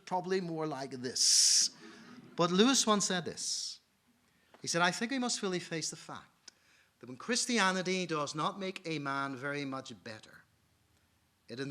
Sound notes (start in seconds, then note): 1.8 audience laughing